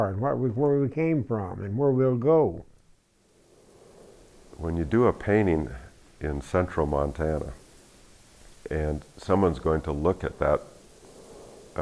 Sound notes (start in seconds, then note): 4.6 voiceover